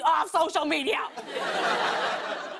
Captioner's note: laughter